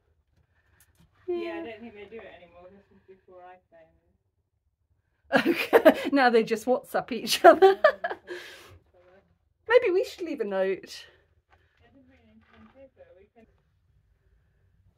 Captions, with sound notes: - Yeah, I don't think they do it anymore. This was before I came. - [laughing] Okay, now they just WhatsApp each other. Maybe we should leave a note? - I didn't bring any pen and paper.